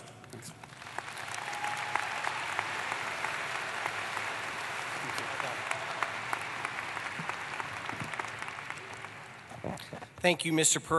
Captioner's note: applause